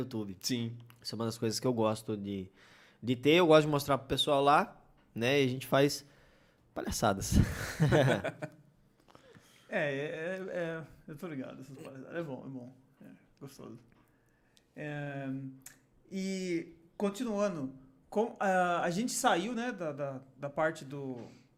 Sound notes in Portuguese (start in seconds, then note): 7.4 risos; 12.0 disse rindo